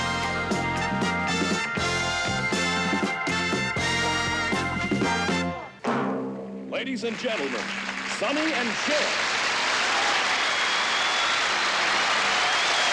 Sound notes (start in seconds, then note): 8.7 applause